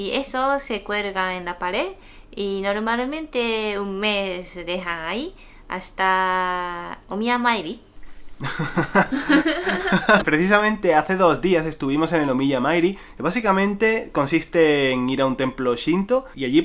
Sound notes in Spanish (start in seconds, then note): 8.4 Risas